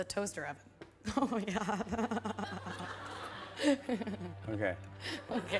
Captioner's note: laughs